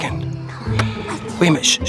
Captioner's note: shushing; whispers